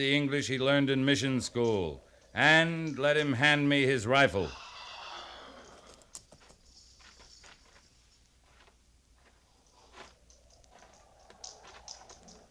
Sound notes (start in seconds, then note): 4.4 sighs